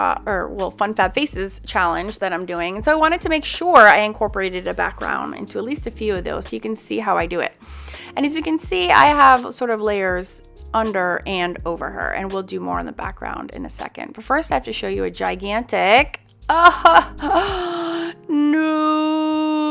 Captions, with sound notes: or FunFabFaces challenge that I'm doing. So, I wanted to make sure I incorporated a background into at least a few of those so you could see how I do it. And as you can see, I have sort of layers under and over her and will do more on the background in a second. But first, I have to show you a gigantic (laughs) no.